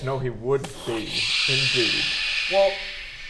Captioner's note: stressed shh noises